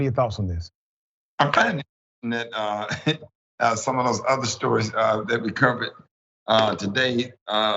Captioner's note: laugh